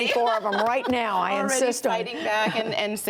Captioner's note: laughter